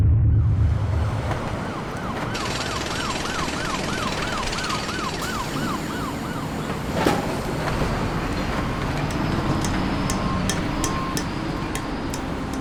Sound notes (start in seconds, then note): 0.1 ambulance siren, construction, urban city sounds